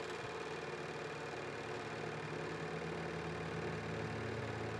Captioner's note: projector whirring